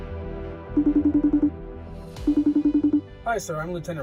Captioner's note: phone ringing